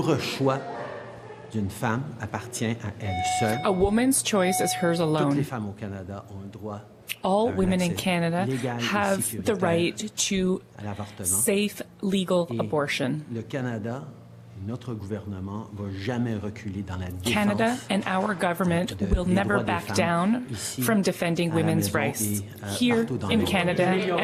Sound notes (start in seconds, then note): 4.1 speaking French